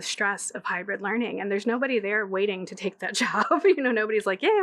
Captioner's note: laughing